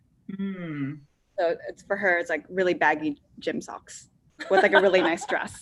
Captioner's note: laughs